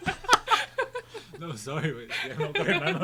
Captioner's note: group laughing